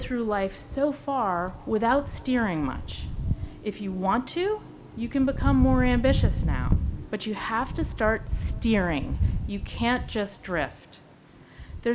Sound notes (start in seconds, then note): none